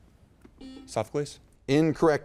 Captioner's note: beep